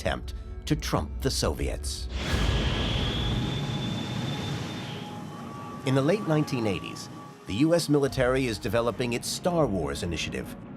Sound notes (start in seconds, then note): 2.1 rocket screeching